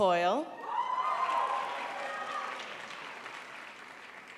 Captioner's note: audience applauding